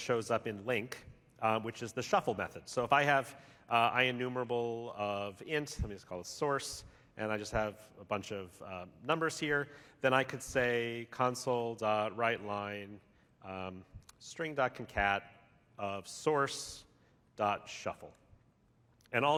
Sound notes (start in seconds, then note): none